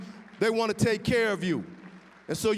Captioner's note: applause